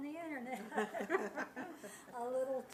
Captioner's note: laughing